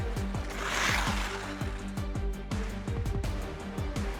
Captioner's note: ice scrapes; upbeat music continues